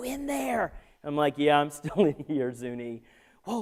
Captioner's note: laughter